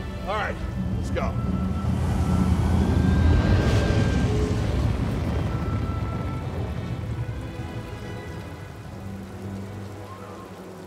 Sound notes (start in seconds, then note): 2.2 cargo barge rumbles